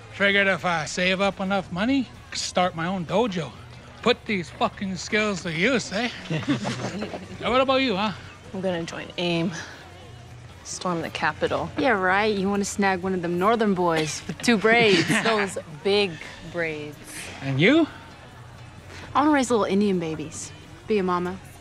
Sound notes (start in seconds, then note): 6.0 laughter; 13.8 laughs